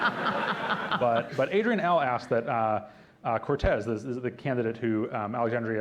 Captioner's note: laughter